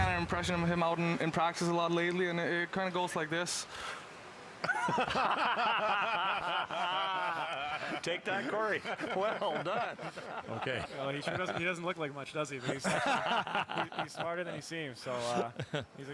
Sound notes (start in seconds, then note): 8.4 laughter; 14.8 laughter